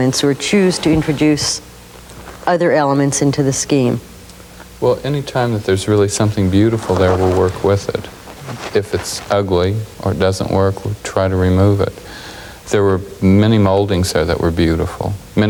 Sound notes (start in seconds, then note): none